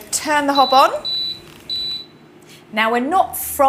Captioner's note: hob beeps